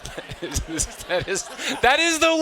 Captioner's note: students laughing; chuckles